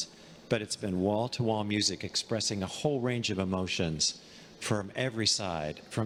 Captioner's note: none